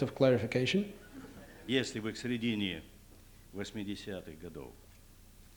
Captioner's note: non-english speech